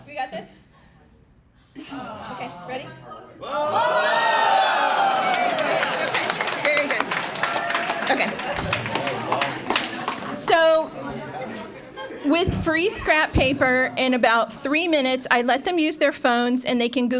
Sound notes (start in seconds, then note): 4.5 applause